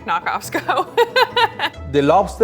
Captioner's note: laughing